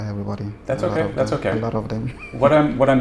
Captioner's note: laughs